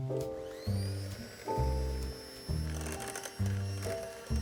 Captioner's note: mixer whirring